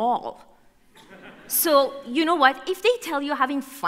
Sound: laughter

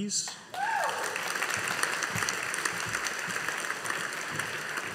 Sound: audience applauding

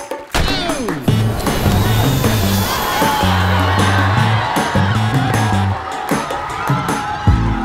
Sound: energetic music continues; students cheering

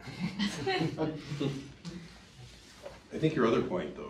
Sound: audience laughing

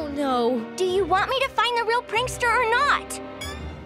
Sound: none

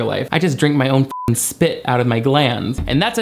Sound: beep

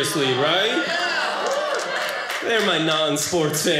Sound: audience cheering

